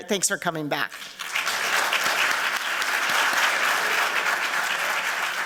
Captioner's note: applause